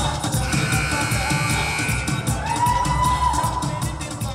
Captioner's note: whistle blowing; buzzer buzzing